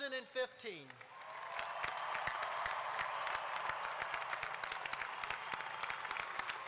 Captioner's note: applause